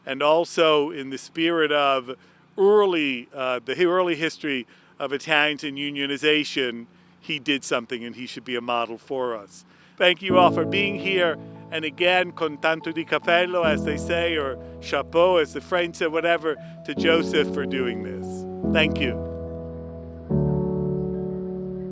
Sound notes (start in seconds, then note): 13.9 speaking Italian; 15.9 speaking French